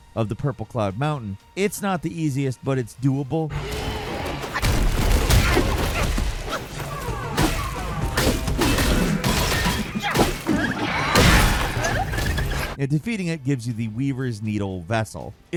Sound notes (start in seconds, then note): 4.7 creatures yelling; 6.4 sword clanking